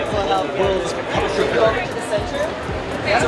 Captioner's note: loud talking